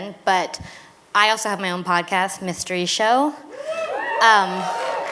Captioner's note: cheers